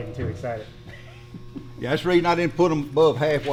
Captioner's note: Destin laughs